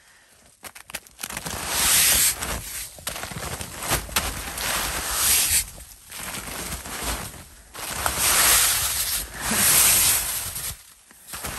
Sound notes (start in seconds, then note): 1.2 sound of snow sliding down the tent; 9.3 laughs; 11.0 sound of snow sliding down the tent